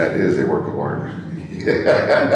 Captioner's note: laughs